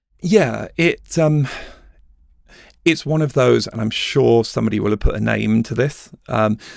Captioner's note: sighs